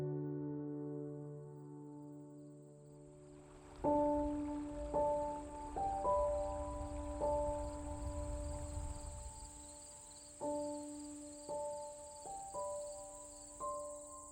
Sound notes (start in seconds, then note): 0.0 serene music; 2.8 insects buzzing